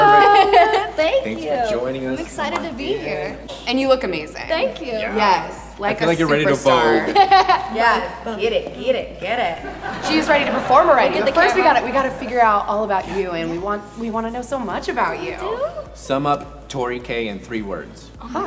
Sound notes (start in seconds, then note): 7.0 laughs; 9.4 audience laughs